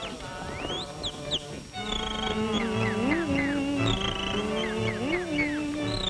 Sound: humming

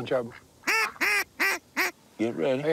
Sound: duck call squeaking

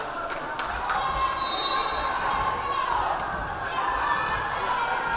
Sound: whistle blaring

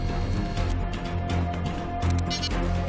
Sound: beeps

